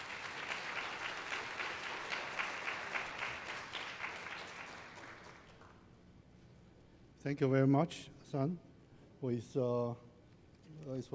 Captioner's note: applause